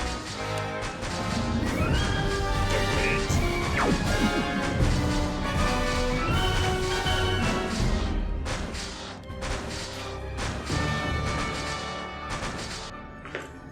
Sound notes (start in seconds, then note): 4.6 laser blast